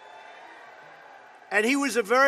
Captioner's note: applause